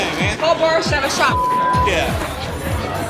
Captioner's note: beep